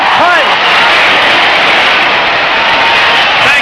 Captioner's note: crowd cheering